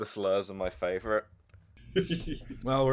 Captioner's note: laughter